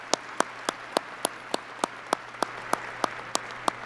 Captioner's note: applause